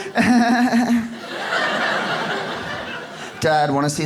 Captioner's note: audience laughs